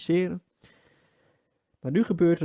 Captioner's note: deep inhale 2